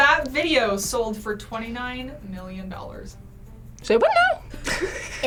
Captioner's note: chuckles